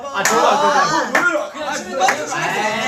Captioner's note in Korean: 멤버들의 아우성